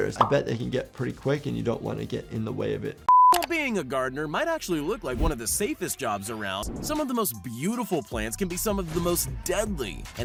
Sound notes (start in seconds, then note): 3.1 screen beeps